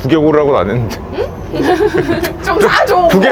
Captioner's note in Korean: 웃음